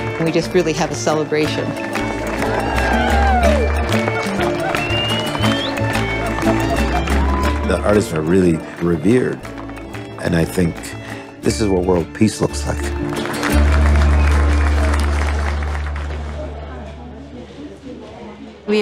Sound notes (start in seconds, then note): 2.5 cheering and applause; 13.1 applause